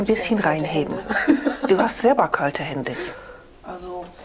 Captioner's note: the customer laughs